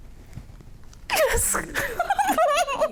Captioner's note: giggles